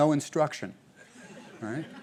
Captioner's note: laughter